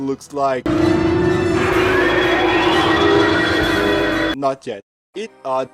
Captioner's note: roar